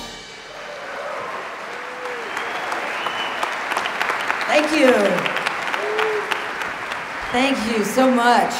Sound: applause

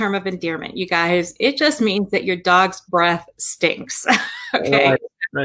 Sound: laughs

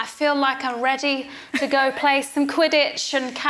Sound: laughs

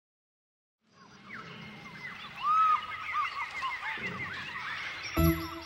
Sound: monkeys chattering; upbeat children's music

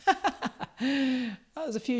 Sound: chuckles

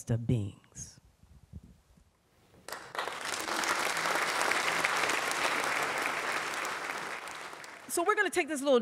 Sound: applause

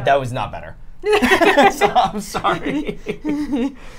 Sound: all laugh

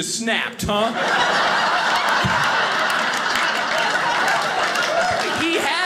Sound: audience laughing

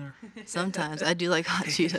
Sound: chuckles

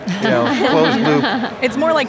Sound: women laugh

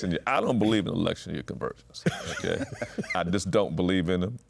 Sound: laughs

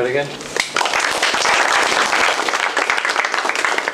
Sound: applause

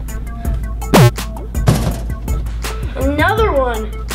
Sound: beeping

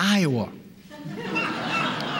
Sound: laughter

